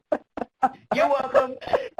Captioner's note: laughs